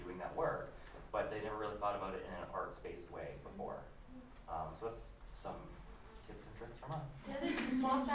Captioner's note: laughter